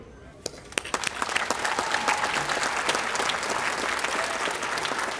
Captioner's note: audience applauding